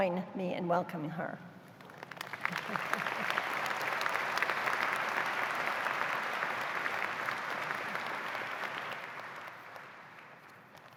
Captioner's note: applause